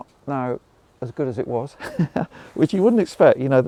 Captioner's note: laughs